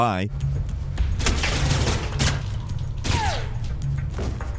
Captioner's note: guns firing